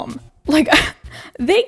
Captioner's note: laughs